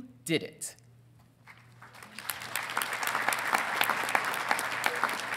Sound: audience applauding

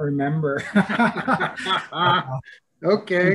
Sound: laughing

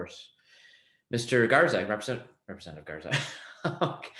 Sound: laughs

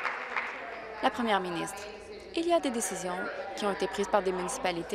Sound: applause

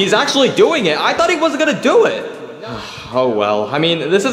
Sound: sighing

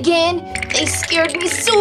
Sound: bones Rattling

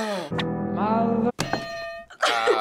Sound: groaning; hitting bell

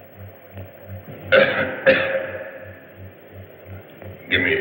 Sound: coughs

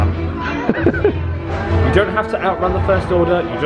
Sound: laughs

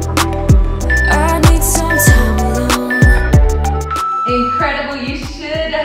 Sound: timer beeping

